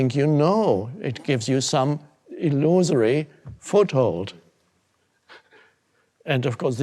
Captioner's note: chuckles